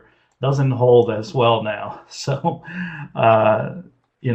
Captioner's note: laughs